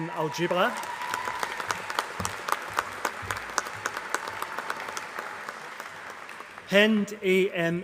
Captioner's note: applause